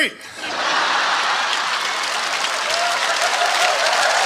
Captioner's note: audience laughs